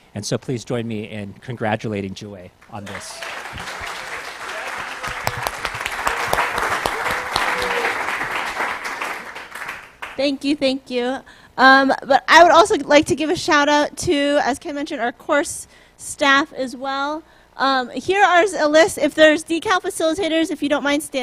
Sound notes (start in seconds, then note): 2.7 applause